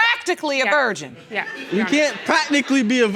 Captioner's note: audience laughing